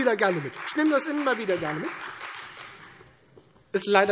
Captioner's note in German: Beifall Freie Demokraten